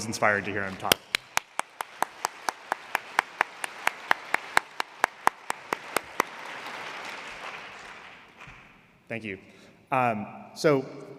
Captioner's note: applause